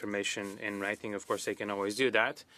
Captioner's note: speaking in French